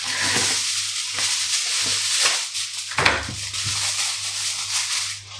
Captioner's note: foil rustlin